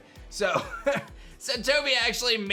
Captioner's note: chuckles